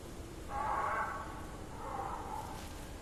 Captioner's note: Death Bird call